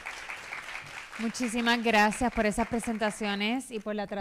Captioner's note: speaking spanish